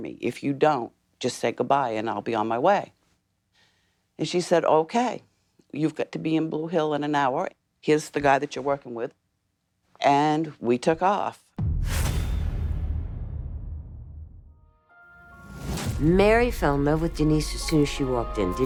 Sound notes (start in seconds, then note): 11.6 electronic tones echoing